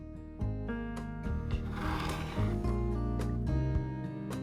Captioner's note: knife scratches cutting board